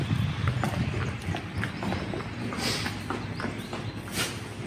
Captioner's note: heavy foot steps